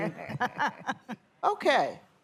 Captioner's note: laughter